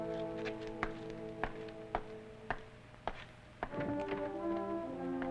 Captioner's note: footsteps receding